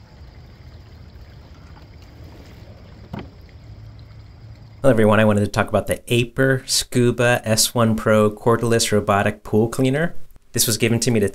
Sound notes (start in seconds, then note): 1.4 robotic Pool Cleaner Machine Sound